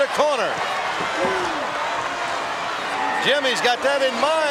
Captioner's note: audience cheering